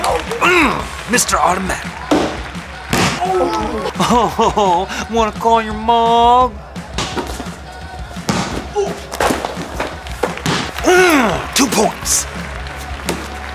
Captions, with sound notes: Oh, Mr. Automatic. Oh, want to call your mom? (grunts) two points!